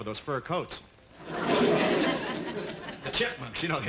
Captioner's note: audience laughing